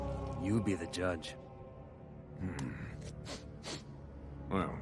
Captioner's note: sniffing